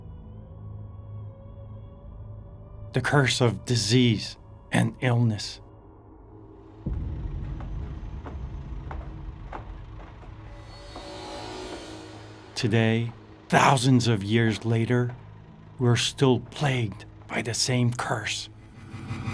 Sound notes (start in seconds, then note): 0.2 eerie music; 7.0 construction sounds; 19.1 ominous music